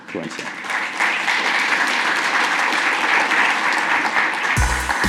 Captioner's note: applause